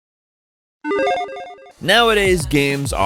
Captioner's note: electronic chiming